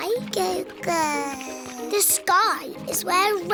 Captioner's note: babbles